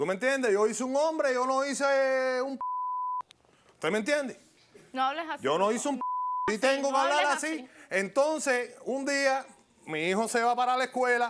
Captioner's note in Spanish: Bip